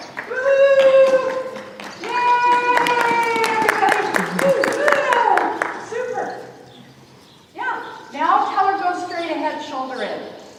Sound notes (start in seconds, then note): 2.9 applause